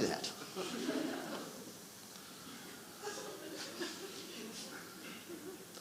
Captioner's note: audience laughing